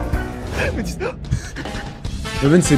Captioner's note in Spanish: ríete